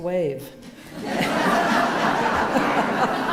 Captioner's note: laughter